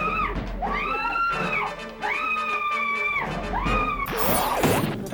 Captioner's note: catcher screaming